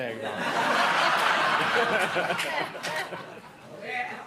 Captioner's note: laughter